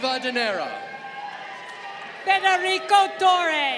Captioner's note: crowd cheering